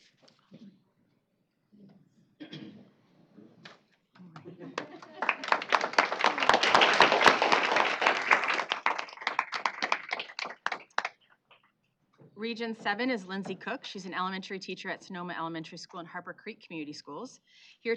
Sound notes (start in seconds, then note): 4.3 applause